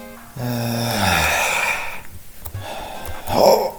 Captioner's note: long sigh of still-having-fun